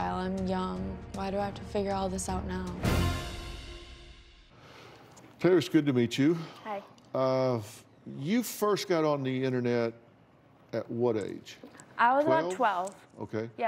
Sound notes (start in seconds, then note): none